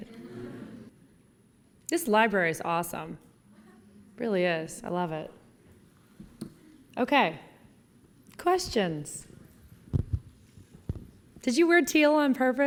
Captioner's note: laughing